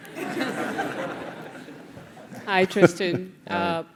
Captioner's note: laugh